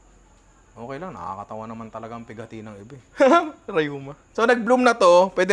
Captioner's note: laughs